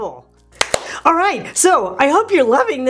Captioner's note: claps hands